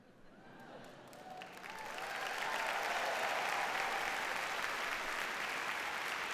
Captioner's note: audience cheers and applauds